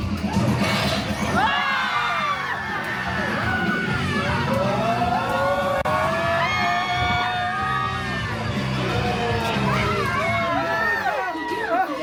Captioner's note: guests screaming, laughing and cheering